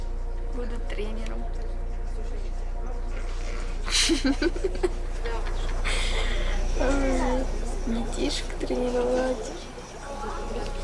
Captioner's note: laughter